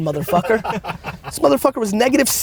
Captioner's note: group laughter